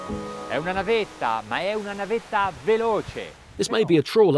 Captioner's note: speaking in foreign language